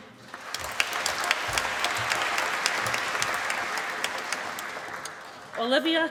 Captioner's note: applause